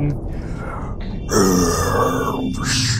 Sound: ominous growl

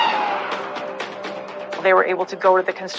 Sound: sirens wailing

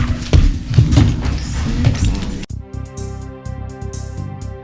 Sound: loud rustling

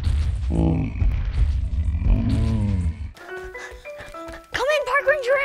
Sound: stegosaurus grunts

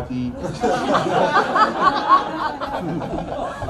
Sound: crowd laughs

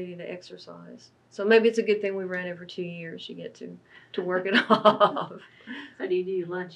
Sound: laughs

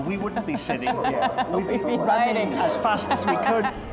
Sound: laughter

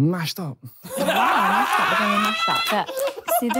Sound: laughing

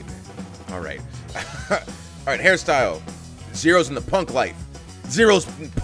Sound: laugh

